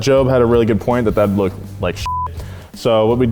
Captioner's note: beep